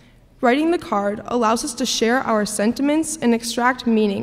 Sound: none

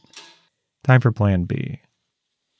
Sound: tools clanking

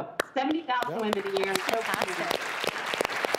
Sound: applause

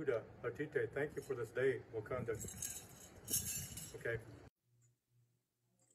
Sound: speaking native language; speaking native language

